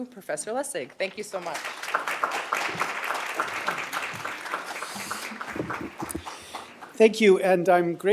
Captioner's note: applause